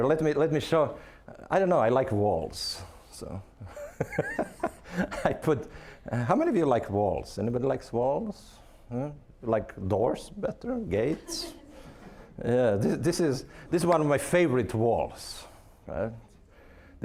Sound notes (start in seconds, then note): 3.7 laughing; 11.1 audience laughing